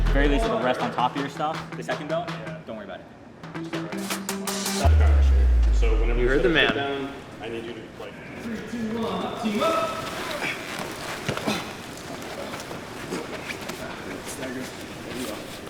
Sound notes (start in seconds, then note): 11.3 men grunting